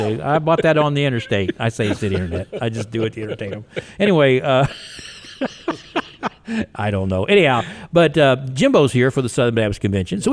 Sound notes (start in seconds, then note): 4.9 laughs